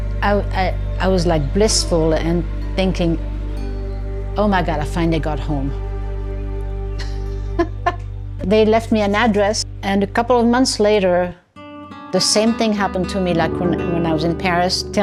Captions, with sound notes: I was like, blissful and thinking, "Oh my God, I finally got home." [LAUGHS] They left me an address, and a couple of months later, the same thing happened to me like when I was in Paris,